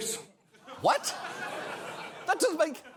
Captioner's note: audience chuckles